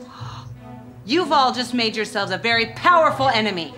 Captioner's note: gasps